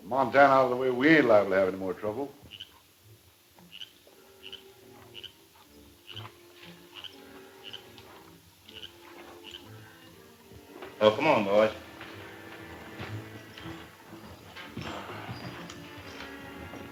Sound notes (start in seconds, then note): 2.2 frog croaking; 6.4 suspenseful music